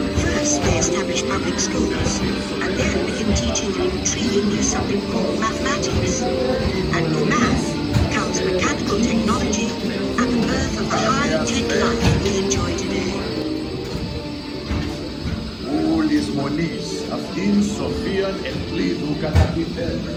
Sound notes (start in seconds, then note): 15.3 speaking ancient Greek